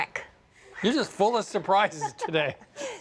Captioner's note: laughs